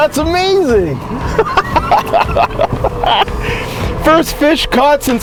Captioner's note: laughing